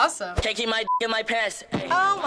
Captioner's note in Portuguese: bip